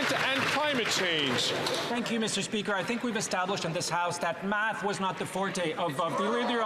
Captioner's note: some Applause